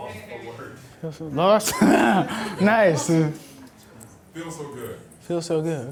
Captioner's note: voiceover; laughs; voiceover